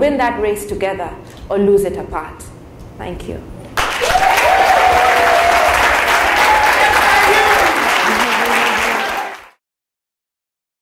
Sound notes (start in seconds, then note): 3.8 cheers and Applause